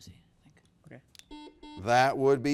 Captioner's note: buzzer beeps